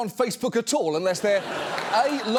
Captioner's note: studio audience laughs